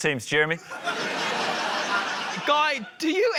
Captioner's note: laughter